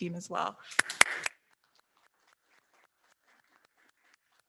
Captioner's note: all applauding